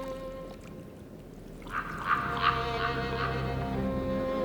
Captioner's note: bird croaking